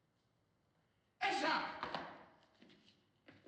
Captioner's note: shouts in turkish